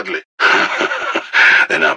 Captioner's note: laughs